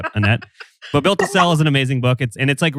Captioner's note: laughs